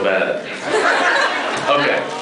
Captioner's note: laughs